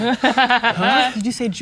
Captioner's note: laughing